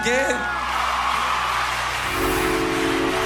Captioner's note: crowd cheers